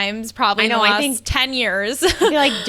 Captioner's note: laughs